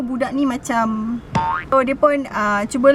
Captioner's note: boink sound